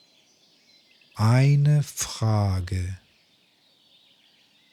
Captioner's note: german